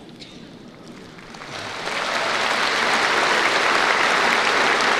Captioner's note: applause